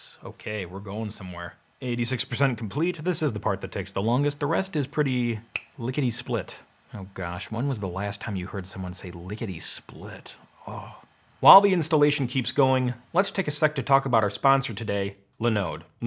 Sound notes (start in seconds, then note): 5.5 finger snaps; 10.5 sighs